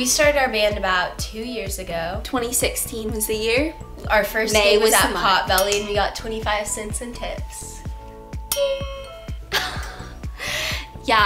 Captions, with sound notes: - We started our band about two years ago. - 2016 is the year. - Our first - May was the month. - Our fist gig was at Potbelly we got 25 cents in tips. (bell) (laughter)